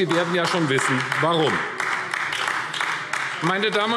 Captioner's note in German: Beifall AfD